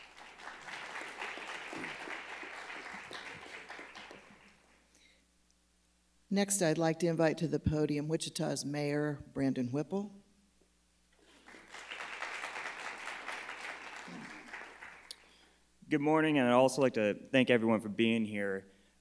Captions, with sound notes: (crowd clapping) - Next I'd like to invite to the podium Wichita's Mayor, Brandon Whipple. (crowd clapping) - Good morning. And I'd also like to thank everyone for being here.